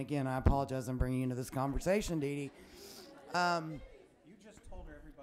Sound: some laughing

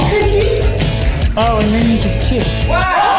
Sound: time dings; everyone cheers excitedly

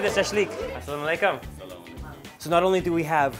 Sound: foreign language

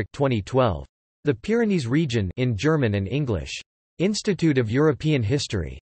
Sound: in German and English

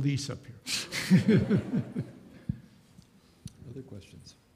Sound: audience chuckles

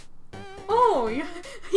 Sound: laughs

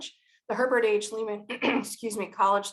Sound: clears throat

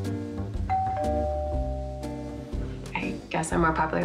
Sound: doorbell rings

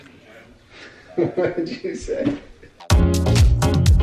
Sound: chuckles; upbeat music

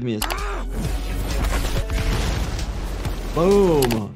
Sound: blows thudding

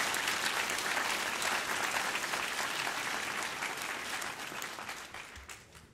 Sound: applause

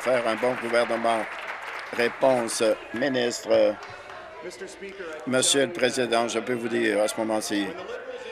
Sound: applause

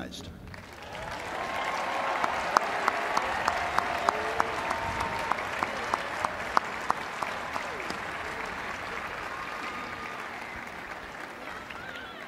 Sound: applause

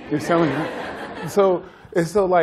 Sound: laughter

